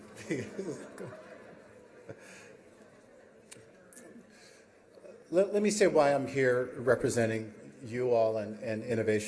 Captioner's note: chuckles